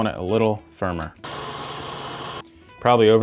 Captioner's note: mixer whirls